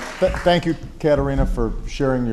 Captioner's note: applause